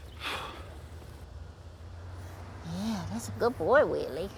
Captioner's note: sighs